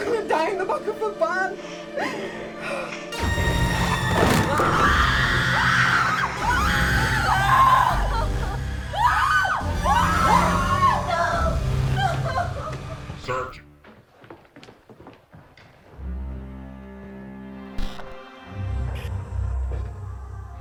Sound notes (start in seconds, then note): 5.0 all screaming; 7.5 dramatic music; 13.1 dramatic music